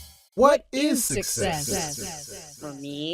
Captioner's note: voices echo, echo, and fade